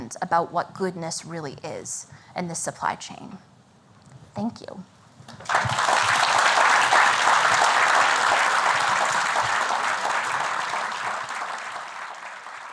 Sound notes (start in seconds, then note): 5.3 applause